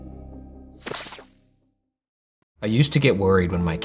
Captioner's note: electrical buzzing